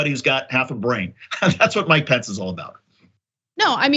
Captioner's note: laugh